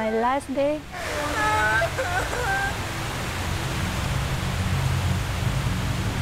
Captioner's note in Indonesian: suara tsunami; suara tangisan